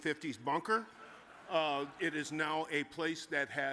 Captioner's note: audience chuckles